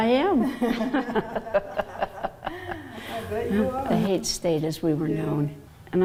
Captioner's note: laughing